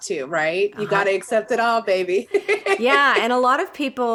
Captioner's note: laughs